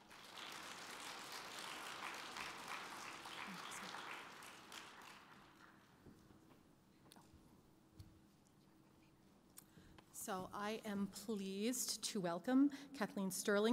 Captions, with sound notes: (applause) (whispers) So I am pleased to welcome Kathleen Sterling